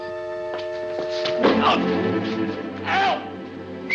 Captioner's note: Tobel yelps; thump